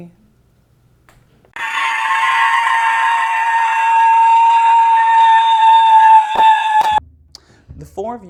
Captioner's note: screams